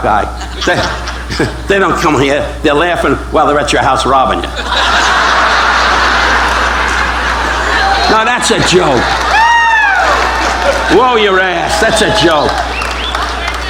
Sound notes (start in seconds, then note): 4.2 audience laughing; 9.0 audience cheering